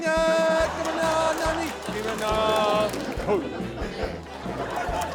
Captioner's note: laughter